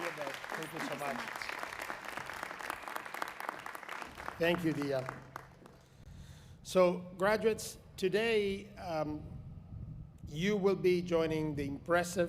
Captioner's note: applause